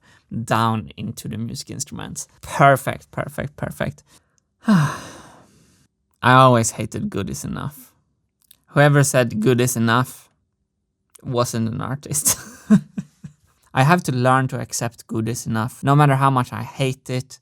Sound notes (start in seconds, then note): 4.6 sighs; 12.2 chuckles